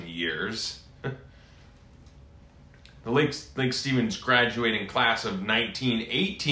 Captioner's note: chuckles